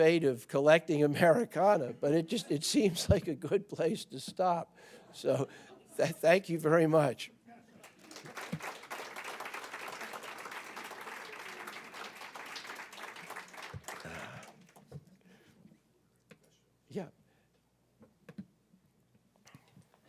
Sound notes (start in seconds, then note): 7.8 applause